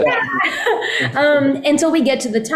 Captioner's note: laughter